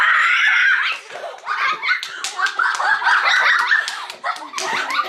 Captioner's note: children cheering and clapping